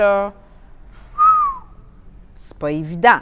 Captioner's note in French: sifflement